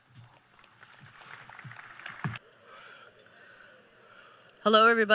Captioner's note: applause